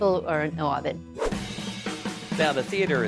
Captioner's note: pat; upbeat music; whooshing